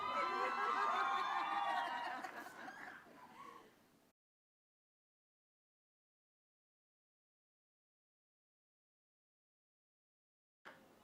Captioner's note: applause